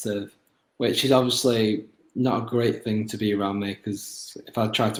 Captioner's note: none